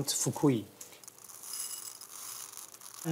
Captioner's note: trickling